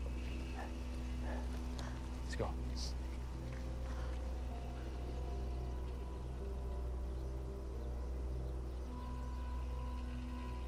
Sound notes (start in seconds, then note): 0.1 tense music; 2.8 birds chirping; 2.8 tense music